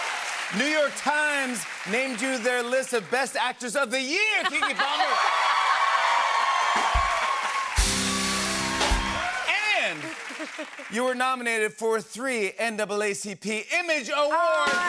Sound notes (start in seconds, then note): 4.4 cheers and applause